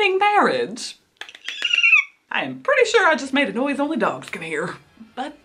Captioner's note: squeals